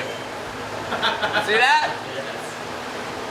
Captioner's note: laughing